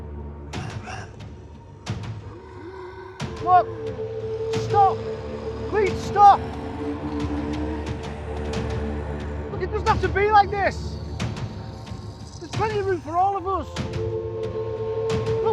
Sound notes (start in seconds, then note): 5.7 clones snarling; 7.2 chilling music continuing